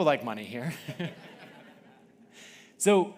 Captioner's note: audience laughing